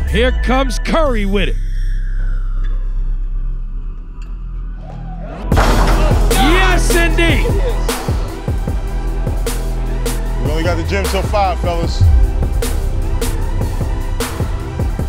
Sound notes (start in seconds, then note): 5.5 ball dunking